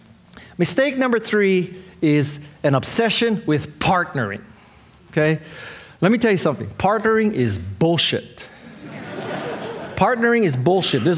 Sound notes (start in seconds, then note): 8.7 audience laughing